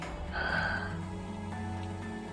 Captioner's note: sighs